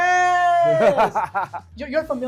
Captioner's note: chuckling